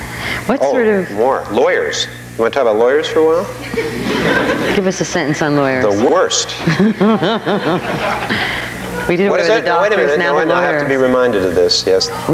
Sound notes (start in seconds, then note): 3.6 audience laughing; 5.9 all laughing